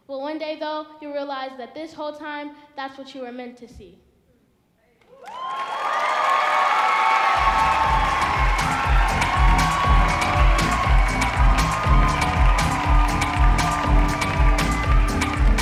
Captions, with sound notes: Well, one day, though, you realize that this whole time, that's what you were meant to see. (audience applauding) (upbeat music)